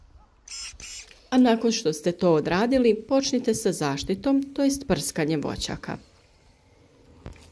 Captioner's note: spraying